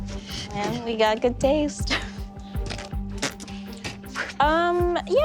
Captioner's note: snorts